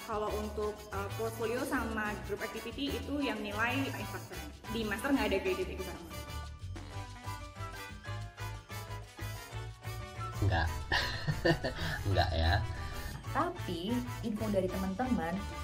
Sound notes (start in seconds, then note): 10.4 laughing